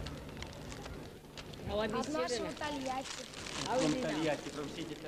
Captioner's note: russian